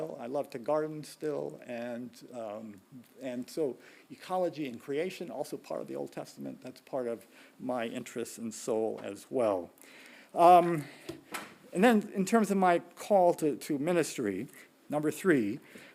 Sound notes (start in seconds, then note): none